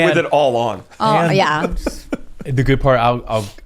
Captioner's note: laughs